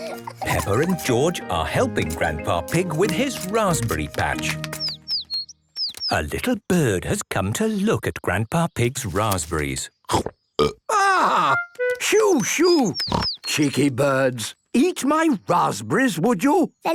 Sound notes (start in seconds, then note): 10.5 burps